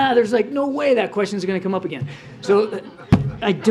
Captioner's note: laughter